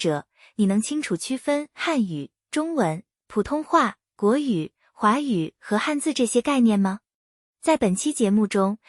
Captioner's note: 中文